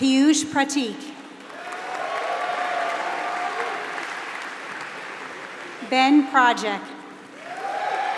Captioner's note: applause